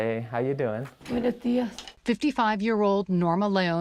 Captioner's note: speaking in foreign language